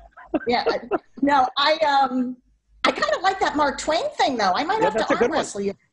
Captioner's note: laughter